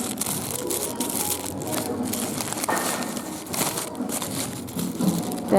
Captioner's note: rustling paper